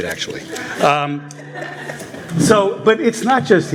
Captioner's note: laughter